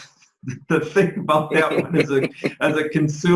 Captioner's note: men laughing